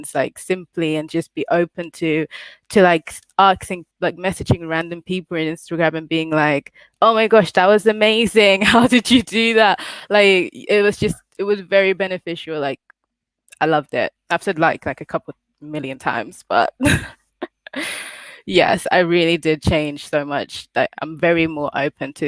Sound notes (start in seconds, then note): 16.8 laughs